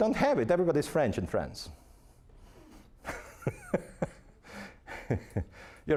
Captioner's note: laughing